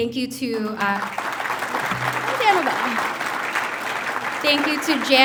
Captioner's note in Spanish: el público aplaude